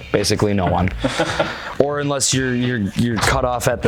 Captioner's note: laughing